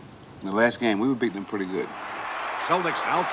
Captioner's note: audience cheering